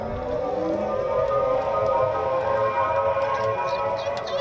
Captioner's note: motor engine whining